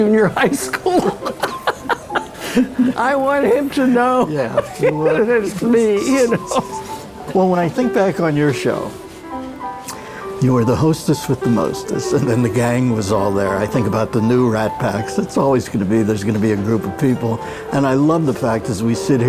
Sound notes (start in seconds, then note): 4.4 laughs; 7.4 laughs